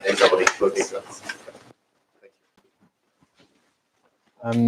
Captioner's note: background chatter